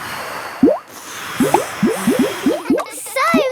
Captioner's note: all blowing